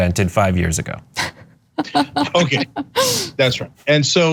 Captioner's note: laugh